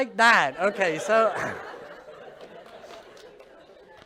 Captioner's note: continued laughter